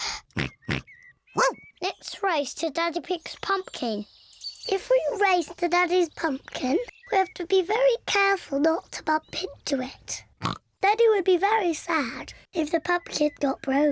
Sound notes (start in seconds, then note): 0.0 george panting, snorts; 10.4 snorts